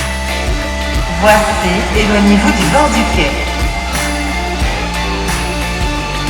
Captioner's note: train Station Announcement in French